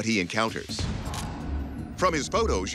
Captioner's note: camera shutter clicks